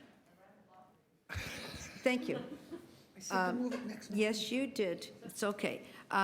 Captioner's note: laughter